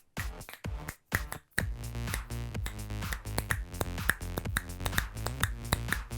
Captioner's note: upbeat music; snapping fingers